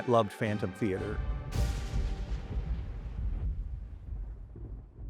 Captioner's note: thunder rumbling